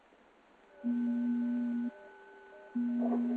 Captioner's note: door beeping